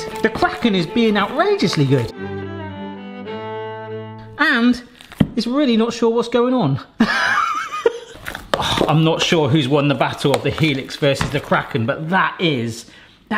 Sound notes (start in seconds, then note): 2.3 joyful music; 7.0 laughing